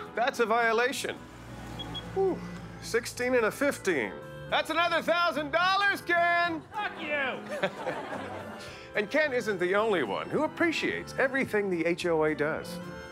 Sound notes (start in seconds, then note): 6.8 laughs